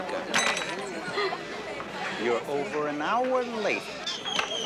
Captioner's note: chuckles